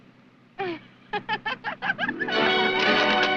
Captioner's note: laughing